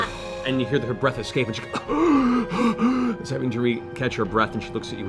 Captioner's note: gasping breath